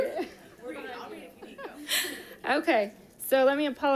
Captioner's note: audience chattering indistinctly